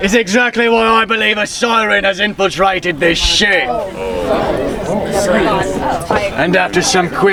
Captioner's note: people chattering